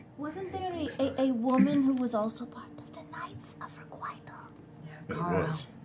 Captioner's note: whispers